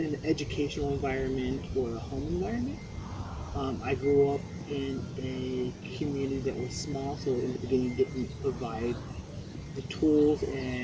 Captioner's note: wind chimes chiming